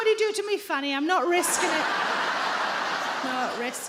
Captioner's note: audience laughing